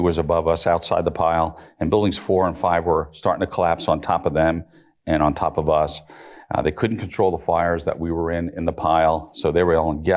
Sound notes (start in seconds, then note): none